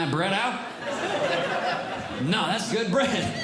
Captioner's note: audience Laughing